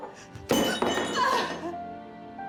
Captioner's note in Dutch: dreunt, verbrijzelt